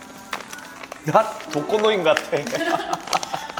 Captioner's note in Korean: 웃음